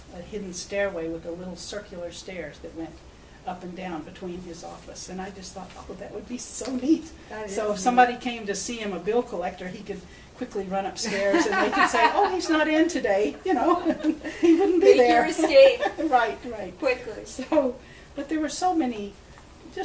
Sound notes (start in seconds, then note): 14.1 all laugh